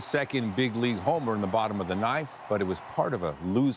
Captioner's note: applause